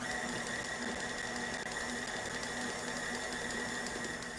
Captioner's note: mixer whirring